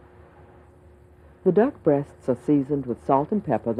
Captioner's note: voiceover